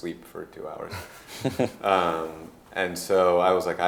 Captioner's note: laughing